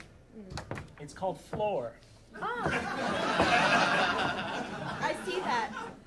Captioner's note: audience laughing